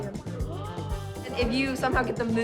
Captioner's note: gasps